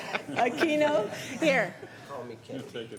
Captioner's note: laughter